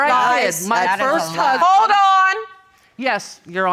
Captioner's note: women arguing